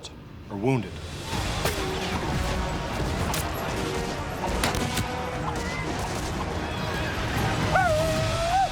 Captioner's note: gunfire; war cries